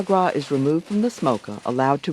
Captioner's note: voiceover